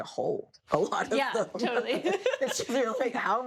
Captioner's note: laughs